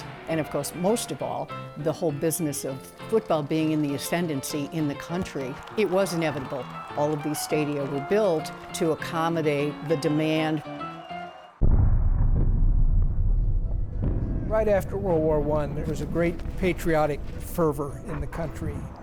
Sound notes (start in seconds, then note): 11.6 bombs explode, music; 11.6 bombs explode